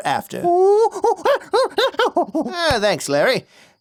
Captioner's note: Larry chatters